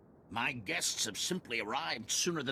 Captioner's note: none